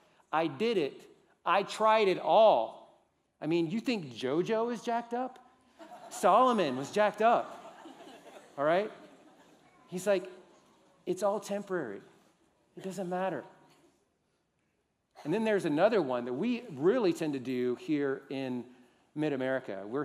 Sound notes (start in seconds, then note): 5.7 laughter